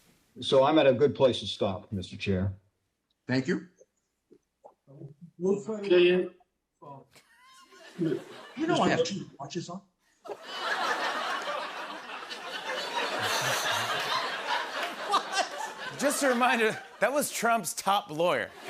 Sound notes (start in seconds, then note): 10.2 laughter; 18.5 laughter